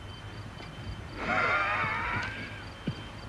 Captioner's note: rasping breath